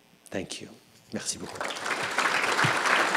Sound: applause

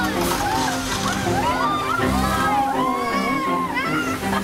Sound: screams

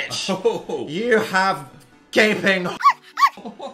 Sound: dog barking

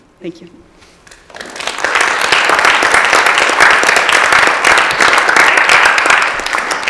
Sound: applause

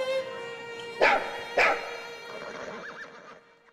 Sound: dog barking

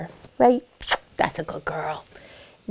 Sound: lips smacking

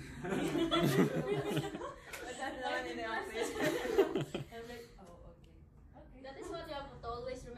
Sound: laughing

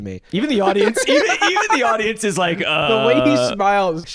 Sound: laughs

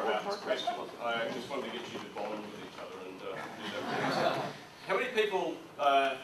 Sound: audience laughs

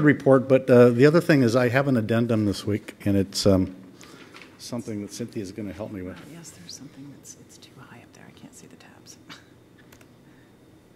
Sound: laughter

